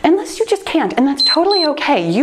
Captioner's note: timer beeps